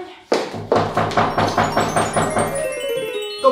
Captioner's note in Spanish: tock, tock